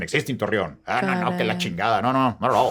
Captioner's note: speaking in Spanish